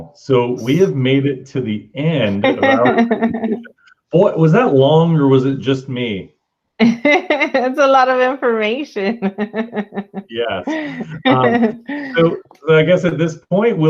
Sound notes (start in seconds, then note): 9.0 laughs